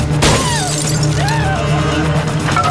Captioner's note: glass shattering; screaming